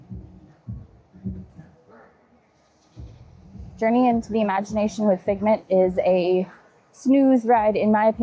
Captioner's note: people chattering